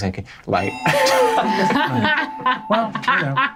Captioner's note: laughing